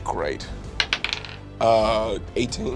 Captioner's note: dice bouncing